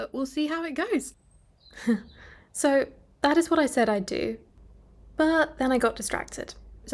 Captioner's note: chuckles